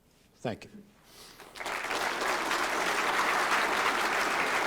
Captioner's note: applause